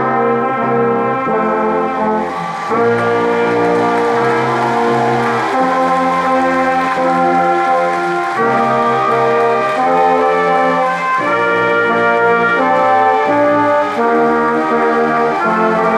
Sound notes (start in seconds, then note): 2.6 crowd applauding; 12.1 ceremonious music continues